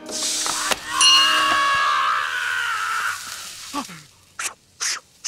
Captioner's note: skin sizzles; Harry yells; Harry blows